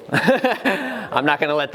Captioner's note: laughs